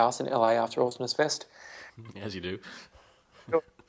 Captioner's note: laughs